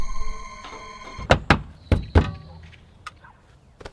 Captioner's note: knocking